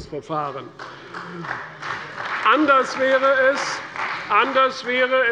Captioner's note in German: Beifall bei der CDU